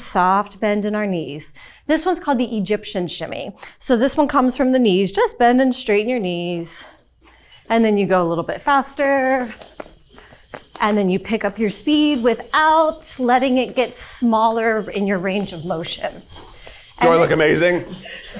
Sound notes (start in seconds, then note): 9.7 hip scarf jingling; 13.9 hip scarf jingling; 16.2 hip scarf jingling; 17.2 crew members chuckling; 17.6 hip scarf jingling